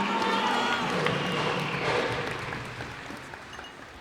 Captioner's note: cheers and applause